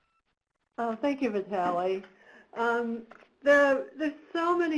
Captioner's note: voiceover